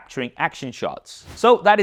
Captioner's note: air whooshes